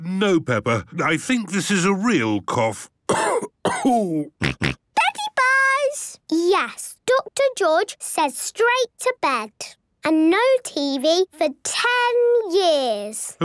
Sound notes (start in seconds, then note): 3.0 cough; 4.3 snort